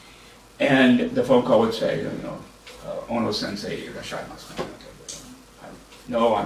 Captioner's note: japanese